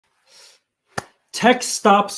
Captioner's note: clapping hands